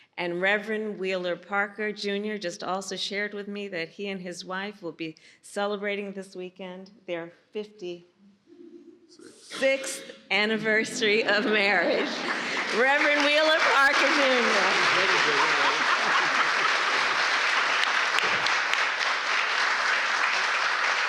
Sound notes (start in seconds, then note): 11.6 laughter and applause; 15.8 applause